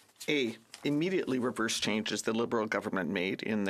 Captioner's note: speaking French